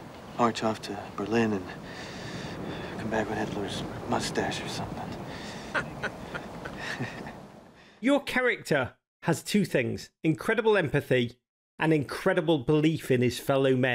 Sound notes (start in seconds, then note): 5.6 laughter